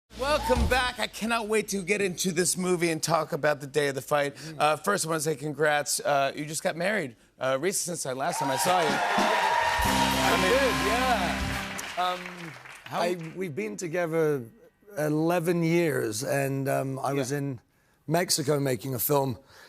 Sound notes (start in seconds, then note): 8.3 cheers and applause